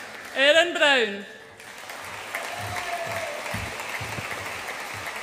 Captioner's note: audience applauds and cheers